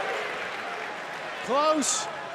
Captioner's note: cheers and applause